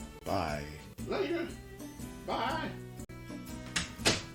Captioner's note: door opens and closes